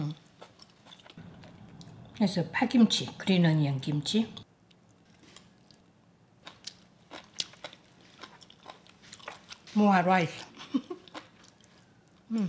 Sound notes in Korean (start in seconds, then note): 7.0 씹는 소리; 10.6 웃음소리